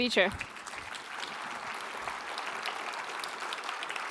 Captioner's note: applause